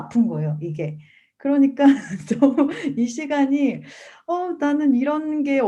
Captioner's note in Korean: 웃음